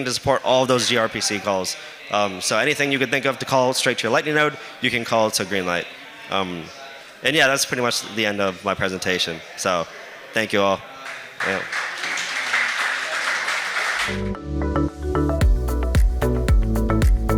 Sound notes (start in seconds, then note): 11.0 applause